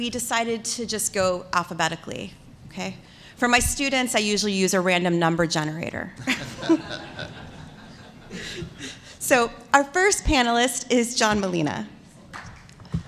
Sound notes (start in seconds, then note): 6.2 laughter